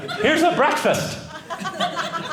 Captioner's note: audience laughing